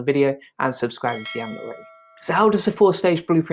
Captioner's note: bell rings